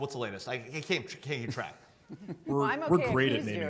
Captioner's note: laughing